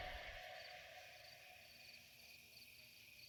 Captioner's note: crickets chirping, cars passing in the distance